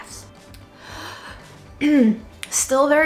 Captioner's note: inhaling deeply